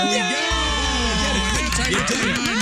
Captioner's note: cheering